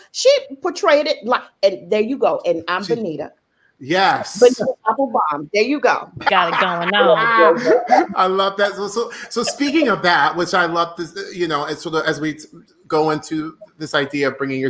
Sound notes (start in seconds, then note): 4.4 voice muffled; 6.1 laughing